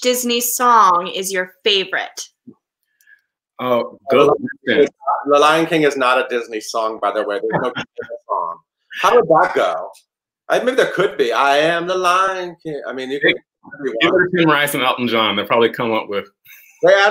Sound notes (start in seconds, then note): 10.5 murmurs